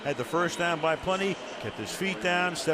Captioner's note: cheering